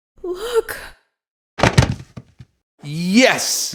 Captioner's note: thud